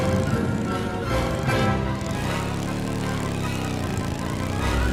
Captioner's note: orchestral music playing; motorbike engine revving